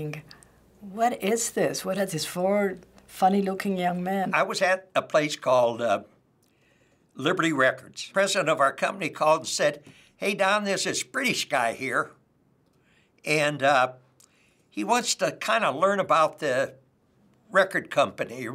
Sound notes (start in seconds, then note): none